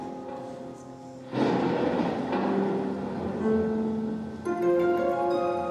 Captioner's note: thunderclap